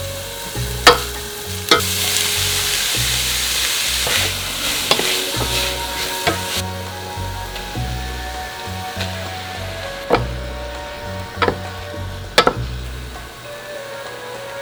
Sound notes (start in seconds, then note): 4.8 food stirring